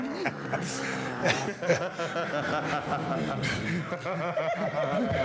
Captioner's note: Dudleys laughing